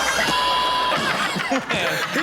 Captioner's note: all laughing; boy screaming